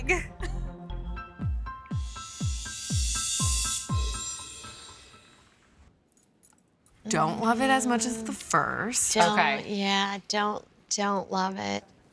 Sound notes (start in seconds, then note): none